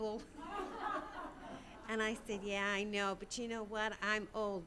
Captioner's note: audience laughing